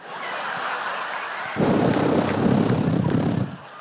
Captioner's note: laughter